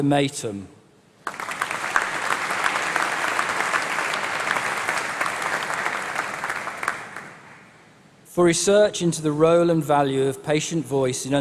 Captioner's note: applause